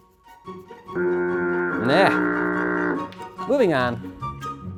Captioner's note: ship foghorn blows